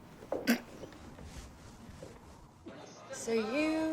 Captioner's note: retching